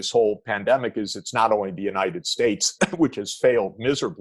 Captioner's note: coughs